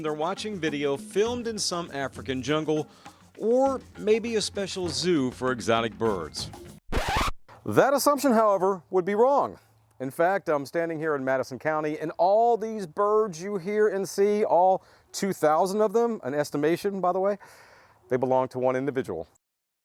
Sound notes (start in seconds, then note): 6.8 record Scratching Noise